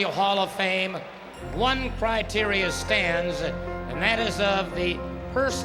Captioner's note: applause